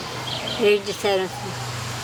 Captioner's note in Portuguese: veículo passando na rua